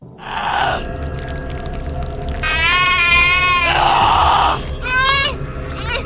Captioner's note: Sally grunting in pain; flesh sloshing